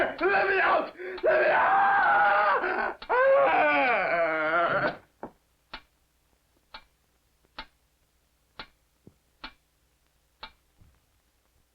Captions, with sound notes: - Let me out!... Let me out! (agonized groan) (water dripping)